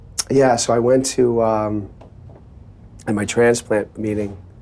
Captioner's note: none